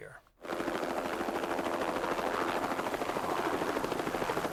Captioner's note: helicopter blades whirring